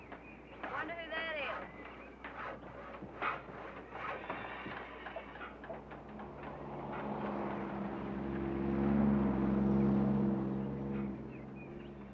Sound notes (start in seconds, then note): none